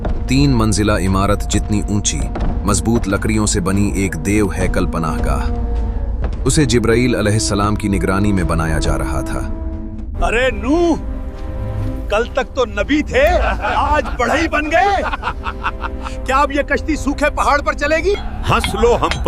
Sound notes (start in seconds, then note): 13.2 laughs